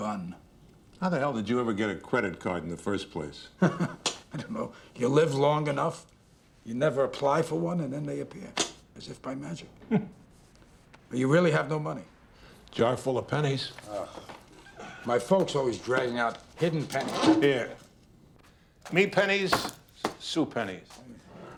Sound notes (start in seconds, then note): 3.6 chuckles; 9.7 chuckles; 13.9 disgusted Sigh